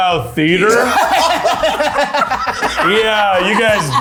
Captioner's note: everyone laughing